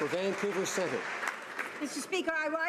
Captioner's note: applause